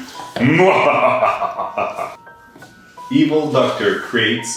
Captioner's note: evil laugh